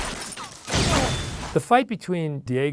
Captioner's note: body thudding; explosion blasting